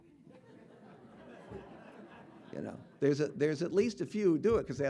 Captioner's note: audience laughing